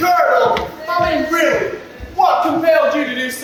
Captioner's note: audience: boo!